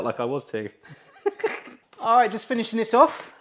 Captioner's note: both chuckling